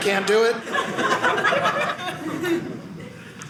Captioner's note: audience laughing